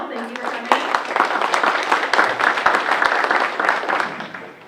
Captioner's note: audience applauds